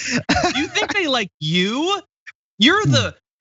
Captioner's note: laugh